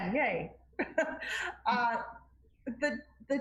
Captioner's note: laughs